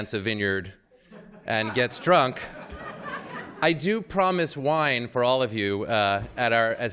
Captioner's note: laughter